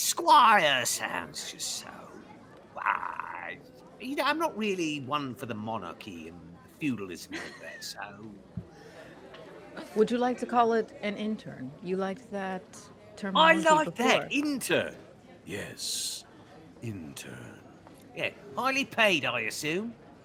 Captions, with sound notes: but squire sounds just so wide. I'm not really one for the monarchy and feudalism like there, so. (Violette laughs) - Would you like to call it an intern? You liked that term- - I like that intern. Yes, intern. Yeah, highly paid, I assume.